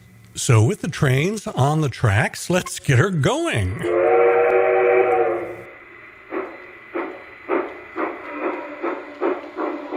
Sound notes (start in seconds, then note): 3.8 sound of steam whistle; 6.1 sound of steam train chugging